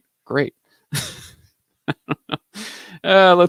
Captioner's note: laughs